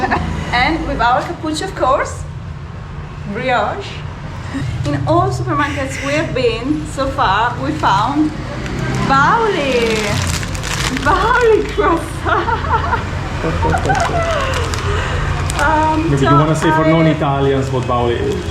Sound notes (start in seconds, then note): 10.9 laughing